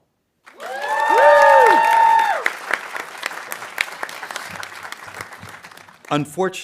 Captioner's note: audience cheering and applauding